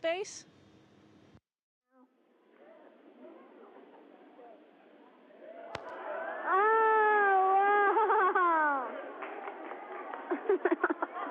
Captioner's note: laughter